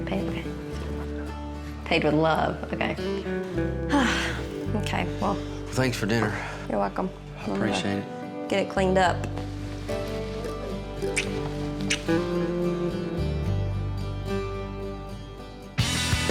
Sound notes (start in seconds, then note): 1.2 whispers; 3.9 sighs; 11.0 smooch